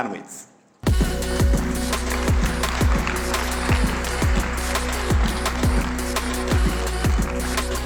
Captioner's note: applause